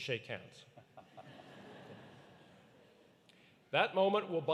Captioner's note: audience laughing